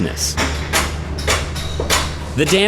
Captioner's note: clanging